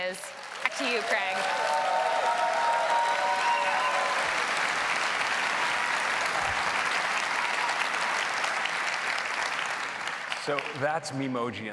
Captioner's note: applause